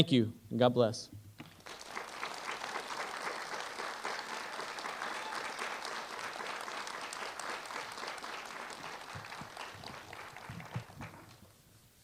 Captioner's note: applause